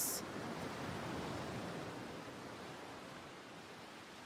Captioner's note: waves splashing